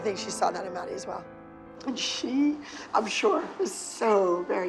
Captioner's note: choked up